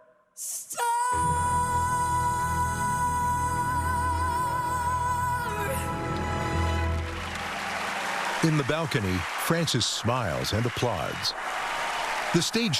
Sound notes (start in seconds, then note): 5.5 song ends; 7.5 cheering and applause